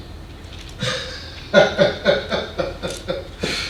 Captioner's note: man laughing